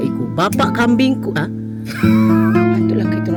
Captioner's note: laugh